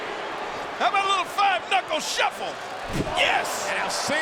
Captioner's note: blow thudding